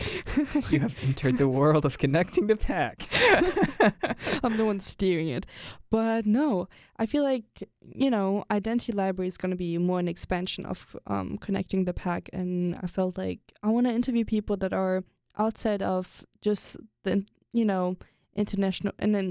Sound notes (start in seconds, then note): 3.3 both laugh